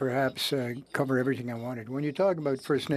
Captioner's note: speaking French